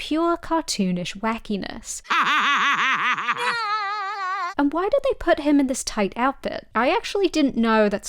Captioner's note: Squidward laughing, Spongebob laughing